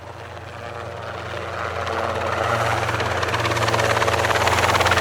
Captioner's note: helicopter whirs